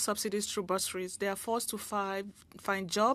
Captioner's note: speaking French